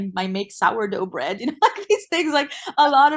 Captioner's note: laughs